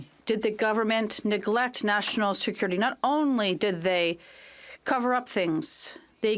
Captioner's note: speaking French